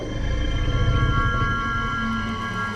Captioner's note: growls